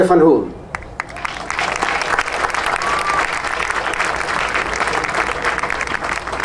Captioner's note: audience cheering and applauding